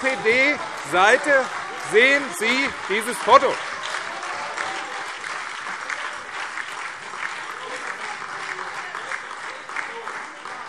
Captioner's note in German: Demonstrativer Beifall BÜNDNIS 90/DIE GRÜNEN, SPD und DIE LINKE